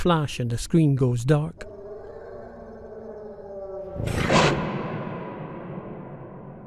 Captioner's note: a howl